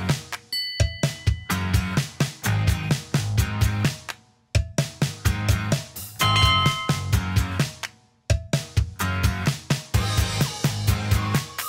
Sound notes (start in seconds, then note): 0.5 bell chimes; 3.3 upbeat music; 6.2 bell chimes; 9.0 upbeat music